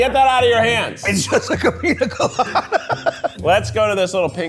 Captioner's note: laughs